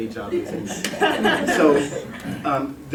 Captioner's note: laughter